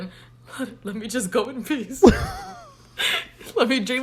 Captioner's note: both laugh